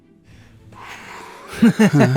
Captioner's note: exhaling heavily; sighs; laughs